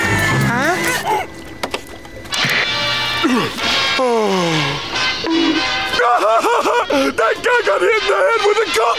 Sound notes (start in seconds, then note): 5.2 laughing